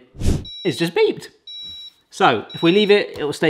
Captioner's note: Instant Pop beeping